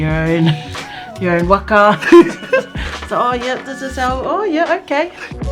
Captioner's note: laughs